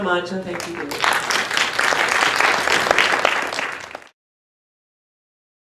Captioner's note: applause